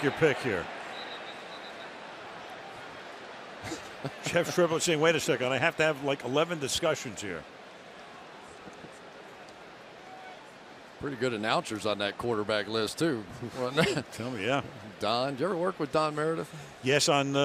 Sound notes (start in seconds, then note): 3.6 laughs